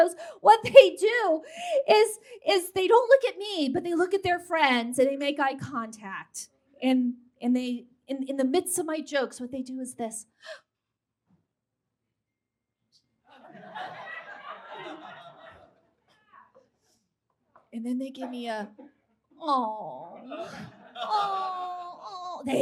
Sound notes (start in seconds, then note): 10.4 sharp gasp; 13.4 audience laughs